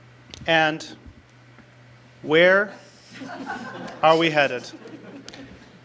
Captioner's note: audience laughter